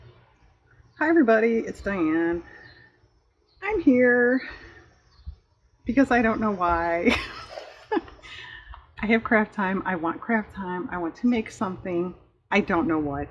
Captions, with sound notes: hi everybody it's Diane i'm here because i don't know why (laughs) i have craft time, i want craft time, i want to make something, i don't know what